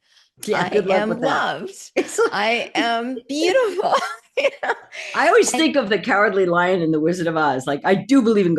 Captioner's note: laugh